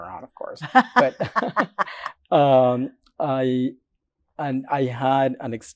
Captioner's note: laughs